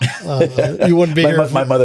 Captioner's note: laughing